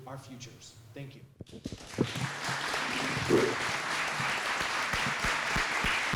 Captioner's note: applause